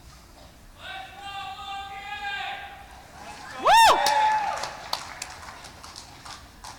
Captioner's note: cheering